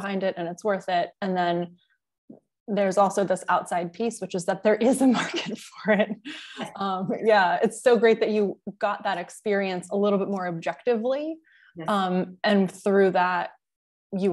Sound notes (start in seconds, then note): 6.9 chuckle